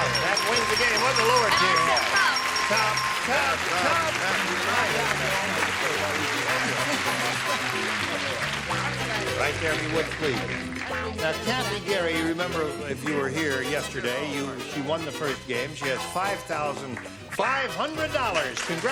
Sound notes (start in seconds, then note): 2.2 applause